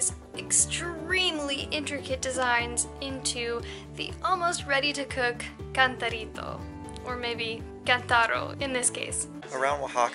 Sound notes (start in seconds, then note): none